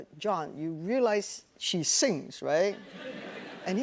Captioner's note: laughter